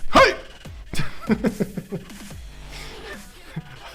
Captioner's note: laughing